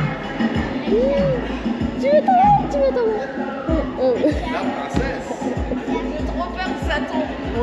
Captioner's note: laughs